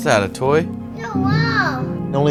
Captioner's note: toddler sounds